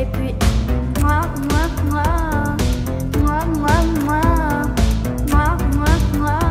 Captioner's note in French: bruits de bisous